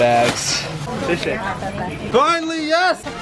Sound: speaks Chinese

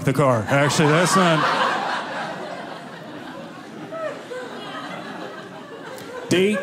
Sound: audience laughing

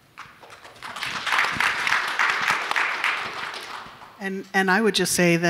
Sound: audience clapping

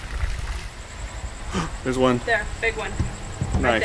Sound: gasp

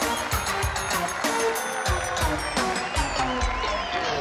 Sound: music stops, crowd applauds wildly

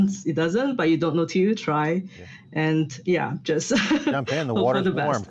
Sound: laughs

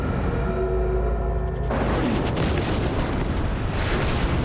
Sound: explosion booms

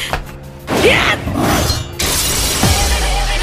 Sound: impact

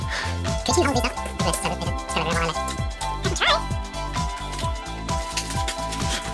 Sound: speaking super fast

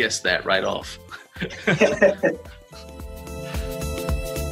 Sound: laughs; upbeat Music

